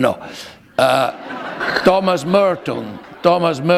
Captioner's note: laughter